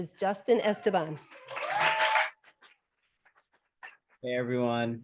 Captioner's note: audience applauding